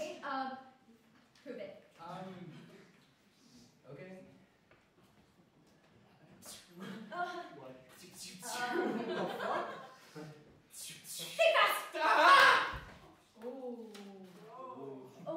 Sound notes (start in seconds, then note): 6.2 web noise; 7.9 more web noises; 10.4 web noises; 13.3 audience oohs